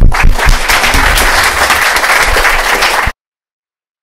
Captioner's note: applause